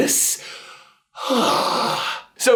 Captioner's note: sigh